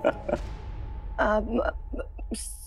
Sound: laughing; stammering

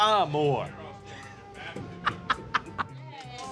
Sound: laughs

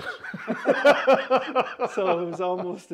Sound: laughter

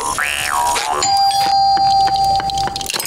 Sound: doorbell ringing

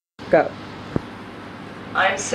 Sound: voiceover

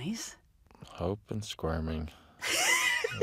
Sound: laughs

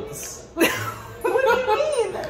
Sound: laughing

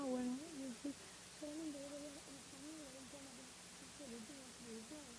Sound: speaking in Spanish

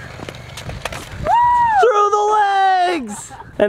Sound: cheers

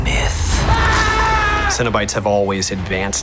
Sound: screaming

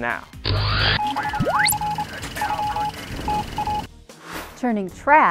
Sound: sound Effects

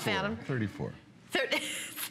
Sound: laughter

